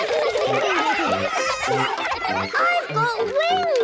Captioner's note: excited laughter